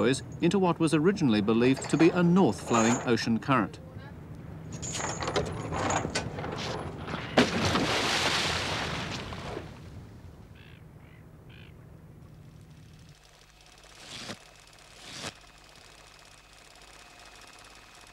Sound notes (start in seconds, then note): 4.7 chains clink; 7.4 splash